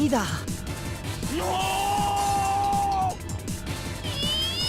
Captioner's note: combination cry of agony and forced self-encouragement